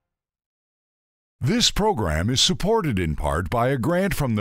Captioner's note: voiceover